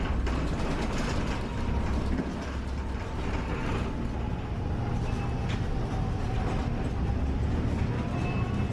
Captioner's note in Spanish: viaje bus E17 Santiago en sonido ambiente